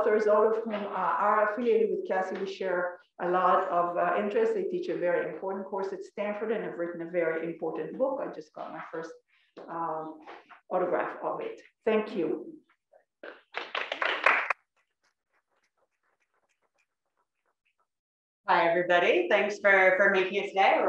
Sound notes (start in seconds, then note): 13.2 applause